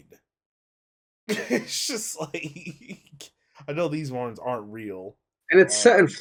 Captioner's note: laughs